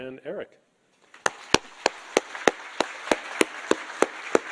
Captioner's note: audience applauding